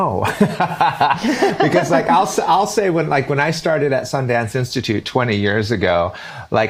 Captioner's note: laughter